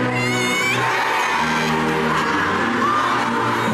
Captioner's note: cheering